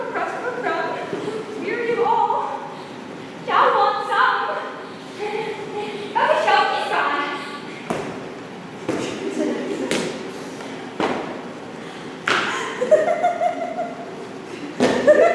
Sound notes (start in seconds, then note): 12.5 scattered laughter